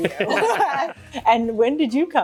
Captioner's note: laughs